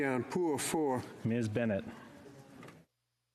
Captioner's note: speaking French